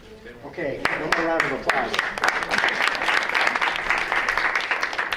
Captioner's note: crowd applauds